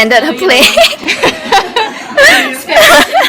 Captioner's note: laughs